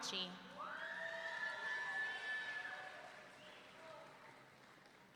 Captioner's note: audience cheering